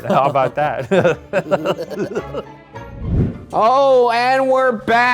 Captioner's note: both laughing